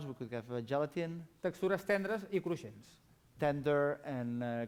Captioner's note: non-english speech